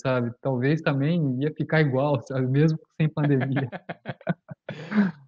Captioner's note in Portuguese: risos